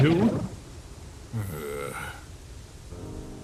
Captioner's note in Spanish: Suspiro